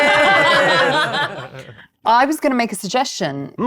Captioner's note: participants laughing